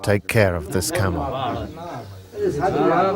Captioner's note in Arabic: الصوت المنطوق الأجنبي